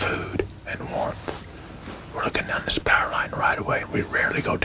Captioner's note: whispering